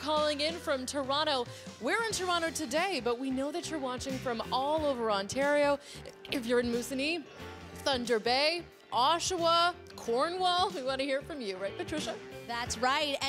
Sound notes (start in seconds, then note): none